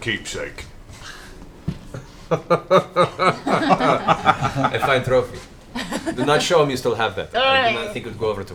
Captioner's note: laughs